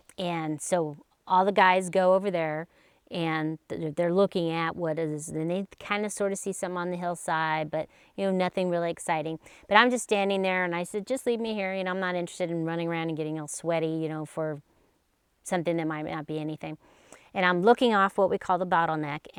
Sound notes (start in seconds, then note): none